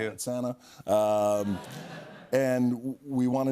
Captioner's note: laughter